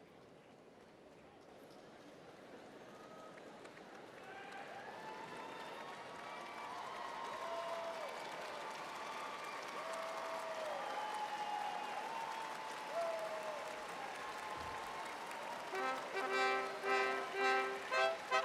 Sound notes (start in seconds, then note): 4.8 applause